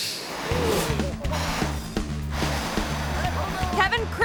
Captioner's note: graphics whooshing; fire whooshing; laughs